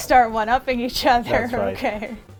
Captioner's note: laughs